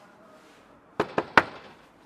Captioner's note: knocks on door